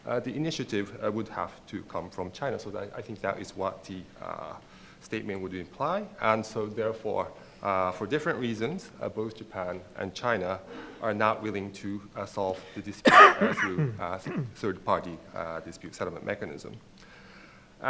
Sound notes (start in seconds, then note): 13.0 coughs; 13.0 clearing throat